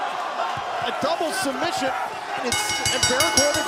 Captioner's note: bell ringing